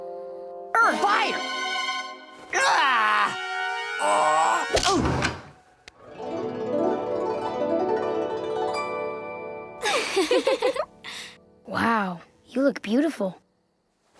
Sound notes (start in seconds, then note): 4.0 groaning; 4.1 grunting; 9.8 giggling